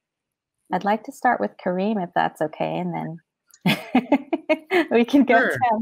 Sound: laughs

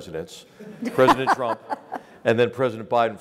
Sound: laugh

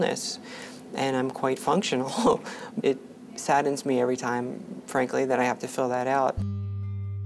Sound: laughs

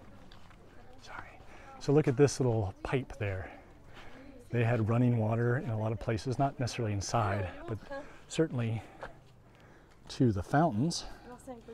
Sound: background chatter

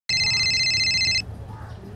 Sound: phone Ringing

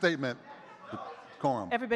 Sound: audience chattering

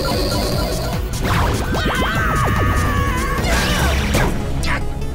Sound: screaming

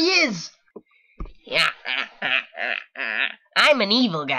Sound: evil laughter

